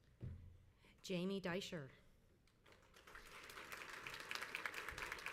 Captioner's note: crowd applauds